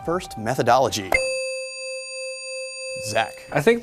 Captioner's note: ding